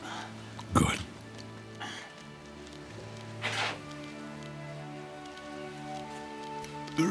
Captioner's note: whispering